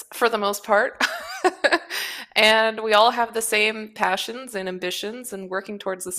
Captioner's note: laughs